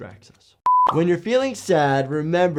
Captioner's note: screen beeps